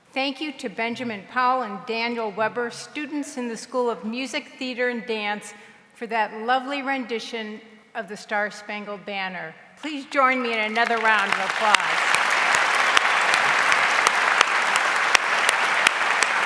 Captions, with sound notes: Thank you to Benjamin Powell and Daniel Weber, students in the School of Music, Theater, and Dance, for that lovely rendition of "The Star Spangled Banner." Please join me in another round of applause. (audience applauds)